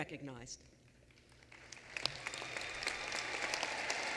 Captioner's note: applause